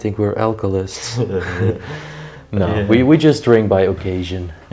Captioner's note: laughs